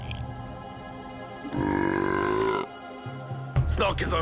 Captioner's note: burps